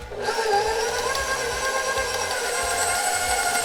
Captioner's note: mixer whirring